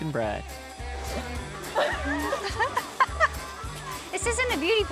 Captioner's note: everyone chuckles